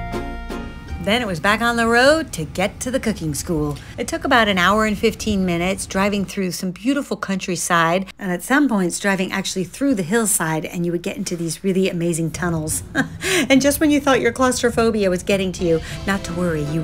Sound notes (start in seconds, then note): 12.7 chuckles